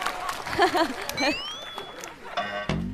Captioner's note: delayed laugh